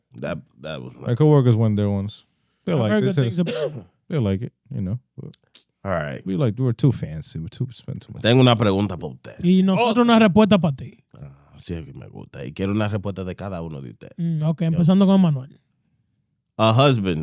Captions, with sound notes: That was my-- My coworkers won their ones. They like this. They like it, you know. All right. We were too fancy, we too spent. (Speaking In Foreign Language) A husband